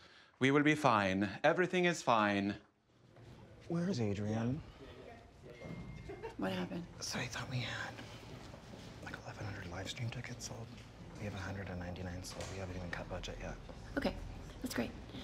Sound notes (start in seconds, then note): 5.5 phone dings; 5.9 laughs